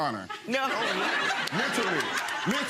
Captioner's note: audience laughing